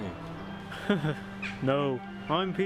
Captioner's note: chuckles